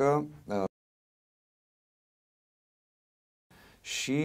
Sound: sound stops

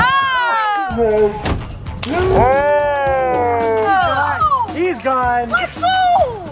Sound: slow motion cheers

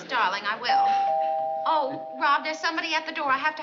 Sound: door bells

